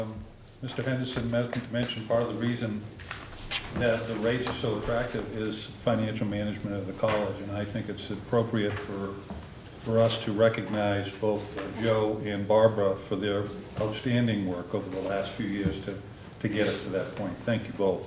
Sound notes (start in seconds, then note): none